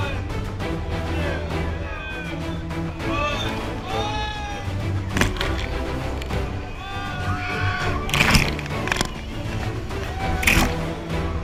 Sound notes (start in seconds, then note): 3.2 shouting, laughter